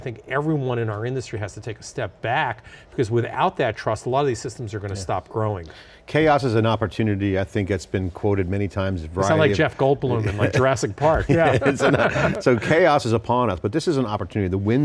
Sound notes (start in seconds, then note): 11.3 laughing